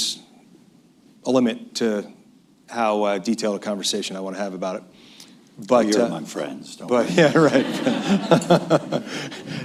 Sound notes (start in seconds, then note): 7.1 laughter